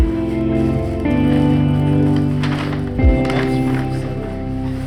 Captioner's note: bag crinkling